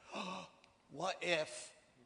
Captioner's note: gasps